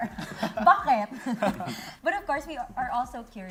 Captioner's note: laughing